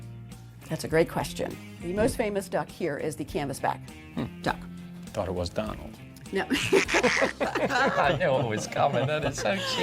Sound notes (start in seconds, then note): 6.4 laughing; 6.4 laughs; 6.8 duck quacks